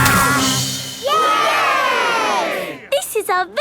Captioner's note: all cheering